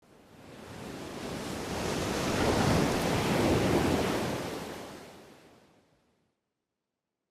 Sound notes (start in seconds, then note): 0.6 waves crashing